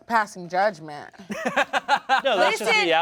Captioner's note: laughs